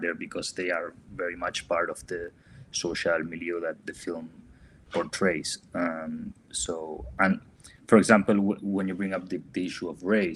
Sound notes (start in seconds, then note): none